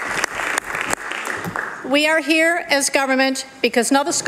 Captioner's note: applause